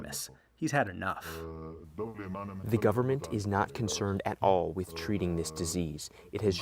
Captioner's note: through translator